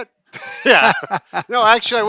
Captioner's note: laughing